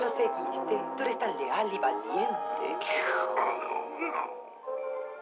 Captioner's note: growls